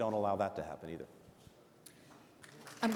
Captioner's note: applause